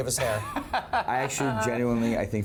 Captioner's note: laughs